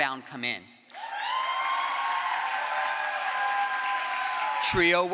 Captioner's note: crowd applause